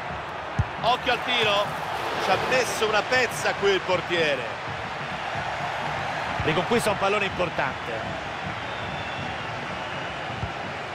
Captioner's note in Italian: Applauso